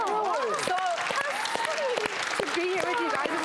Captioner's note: applause